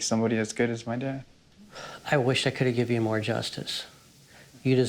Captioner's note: sighs